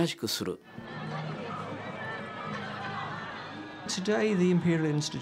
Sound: people chattering

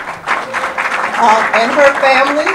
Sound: audience applause

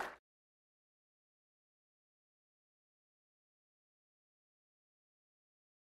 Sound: applause

